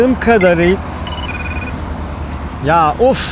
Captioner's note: phone ringtone